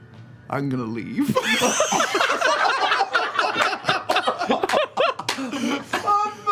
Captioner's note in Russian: смех